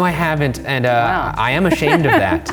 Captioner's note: laughs